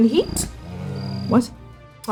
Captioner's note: bear groaning